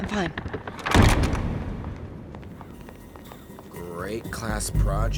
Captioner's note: door slams